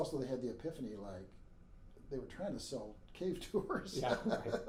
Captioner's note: laughing; laughs